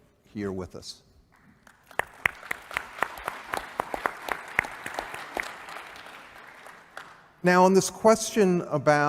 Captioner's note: applause